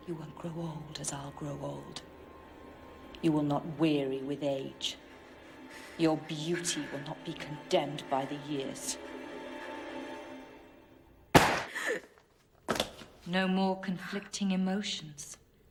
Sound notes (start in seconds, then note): 11.3 Louise gasps; 11.3 gun fires